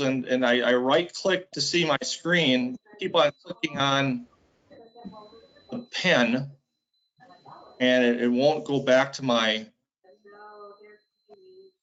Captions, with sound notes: and I right click to see my screen. Keep on clicking on the pen, and it won't go back to my, (hums).